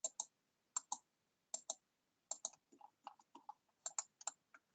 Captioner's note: mouse clicking